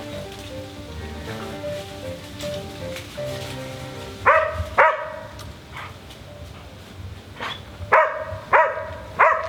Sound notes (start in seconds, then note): 4.6 dog barking